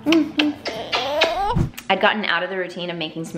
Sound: lips smacking

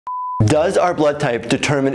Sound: beep

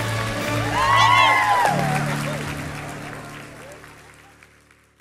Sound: graduates cheering

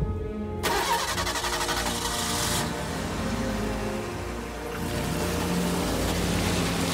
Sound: engine Start Sound

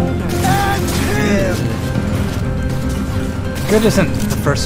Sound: character yelling

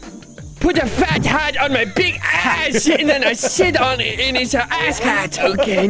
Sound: laughs

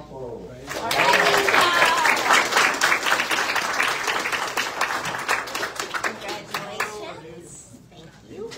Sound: audience cheers and applauds

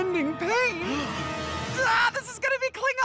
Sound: gasps

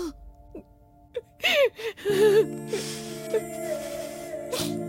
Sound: Mom crying

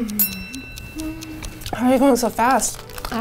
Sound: bell ringing

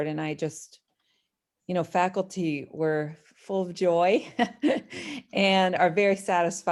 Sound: laughter

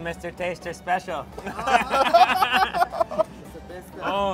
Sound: laughs

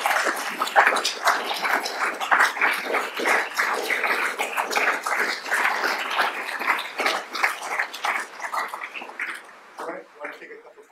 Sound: applause

